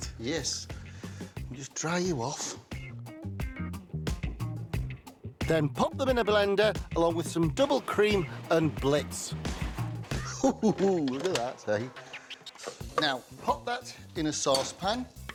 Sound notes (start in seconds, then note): 2.7 upbeat music; 10.1 chuckles